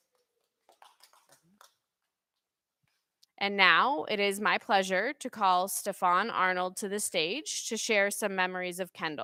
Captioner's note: applause